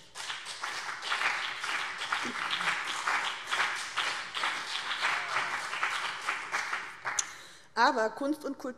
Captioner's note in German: Beifall BÜNDNIS 90/DIE GRÜNEN und CDU